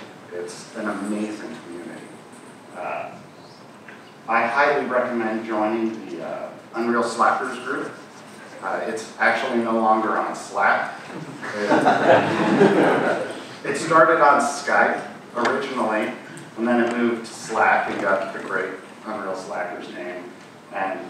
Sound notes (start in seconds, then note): 11.2 audience laughing